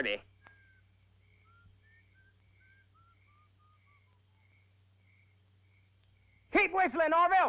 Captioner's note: soft whistling